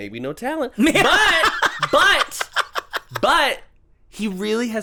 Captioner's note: cackles